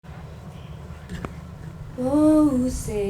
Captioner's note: wind blowing